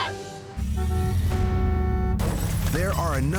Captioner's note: horn honks, glass shatters